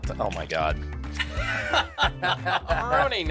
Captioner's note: laughing